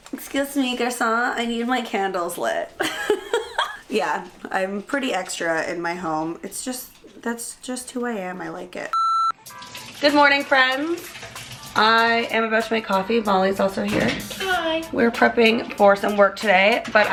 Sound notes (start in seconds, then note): 2.8 laughing; 8.9 beeping